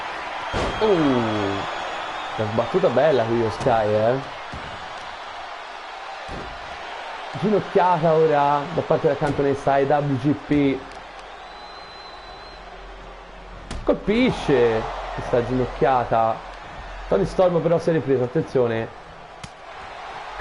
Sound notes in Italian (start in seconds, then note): 6.5 Applauso